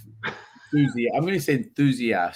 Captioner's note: laughs